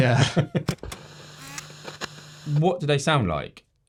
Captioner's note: projector zooming